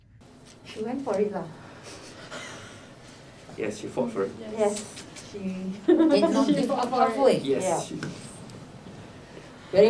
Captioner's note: laughs